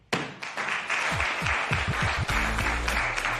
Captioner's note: applause